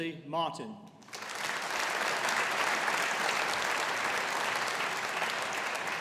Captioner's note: audience applauding